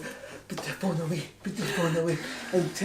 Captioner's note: san gasps